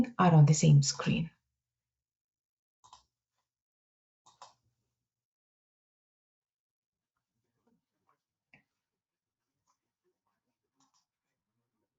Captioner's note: silence